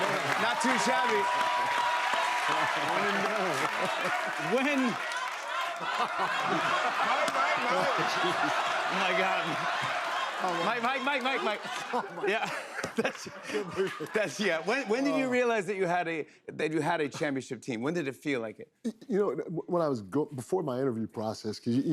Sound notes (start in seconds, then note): 5.7 laughter; 13.3 laughs